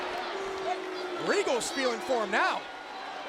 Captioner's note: crowd cheering